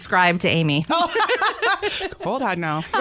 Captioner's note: laughter